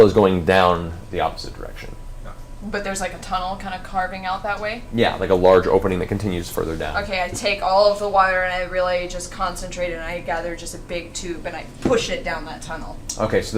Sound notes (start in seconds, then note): none